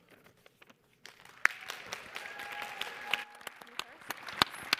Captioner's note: audience applauds